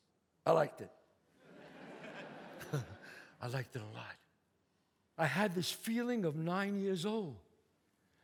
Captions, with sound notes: I liked it. [audience laughs] [chuckles] I liked it a lot. I had this feeling of nine years old.